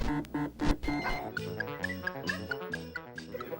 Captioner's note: digital beeping; electronic piano